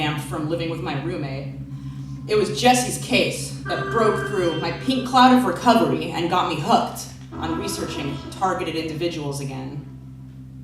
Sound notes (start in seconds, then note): none